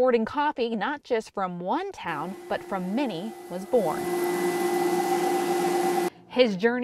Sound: sound of Coffee Roaster

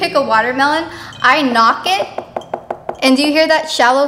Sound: knocks

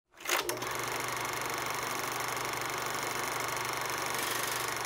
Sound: projector tape rolling

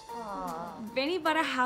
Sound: audience awws

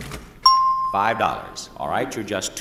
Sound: cash register dings

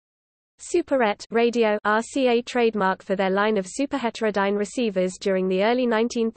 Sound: radio

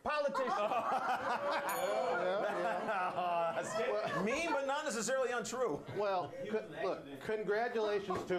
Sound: laughter; bell rings

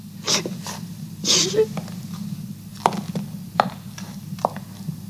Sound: lady continues sobbing

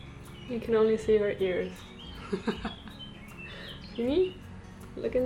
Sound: chuckles

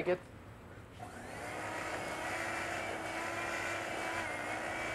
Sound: whirring

